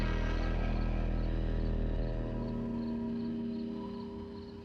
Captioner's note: groaning